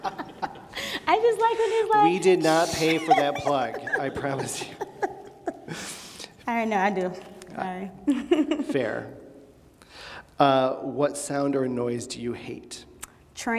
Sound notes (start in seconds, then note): 2.4 laughs